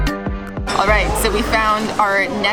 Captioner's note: speaking Italian